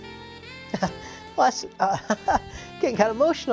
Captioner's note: laughter